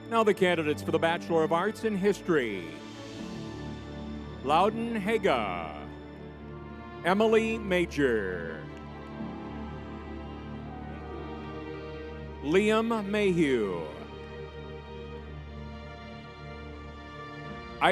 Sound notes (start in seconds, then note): 9.3 crowd cheering; 9.7 tense music; 15.5 tense music